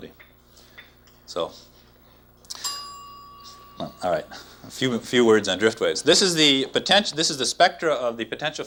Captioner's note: bell dings